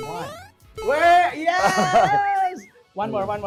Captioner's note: laughs